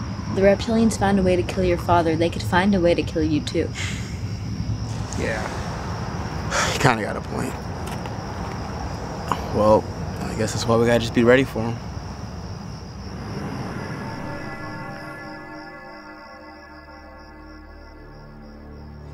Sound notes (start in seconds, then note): 6.4 sighs; 13.2 light dramatic music; 14.1 crickets chirping